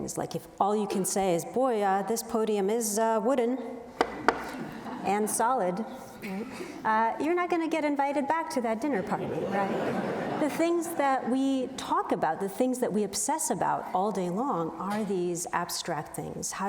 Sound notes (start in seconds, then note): 4.0 knuckles rap; 4.3 audience laughs; 9.0 audience laughs